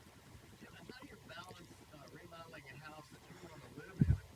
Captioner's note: voiceover